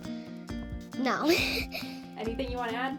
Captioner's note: laughs